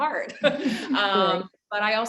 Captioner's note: giggles quickly